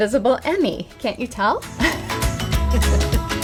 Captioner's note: laugh